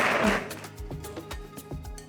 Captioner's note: clapping